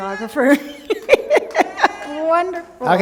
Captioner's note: laughter